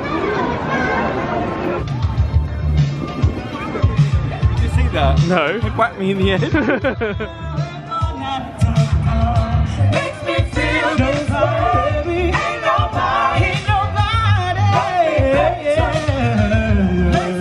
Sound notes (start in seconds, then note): 0.2 upbeat carefree music; 6.3 laughs